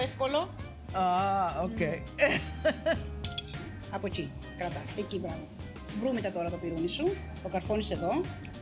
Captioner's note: laughs